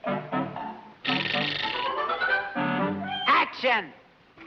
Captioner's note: chair clicks